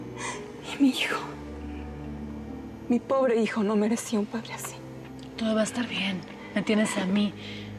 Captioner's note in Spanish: sollozos